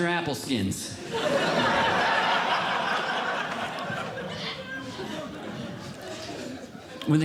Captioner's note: audience Laughing